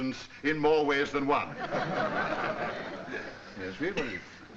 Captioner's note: laughter